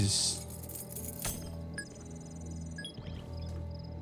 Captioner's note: beeping